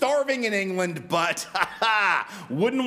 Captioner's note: sarcastically Laughs